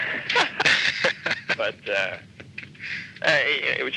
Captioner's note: laughing